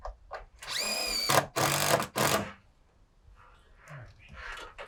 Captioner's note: drill spinning